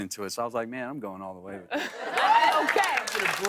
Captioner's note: cheers and applause